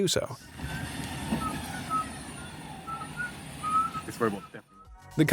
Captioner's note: whistling